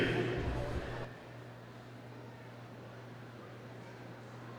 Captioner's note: audience chattering